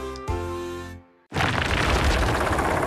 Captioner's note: rocks Clatter